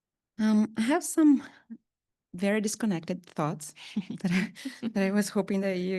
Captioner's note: chuckles